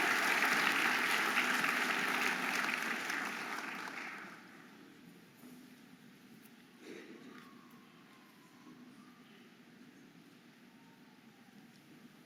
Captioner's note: audience applauding and cheering